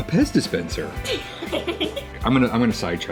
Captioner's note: laughs